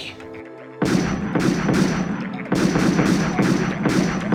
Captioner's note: gunshots